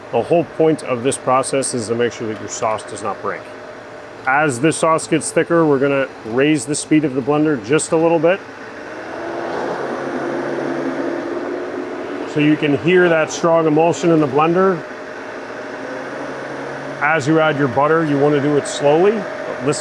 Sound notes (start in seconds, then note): 9.3 blender whirring